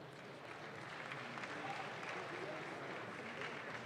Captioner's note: audience claps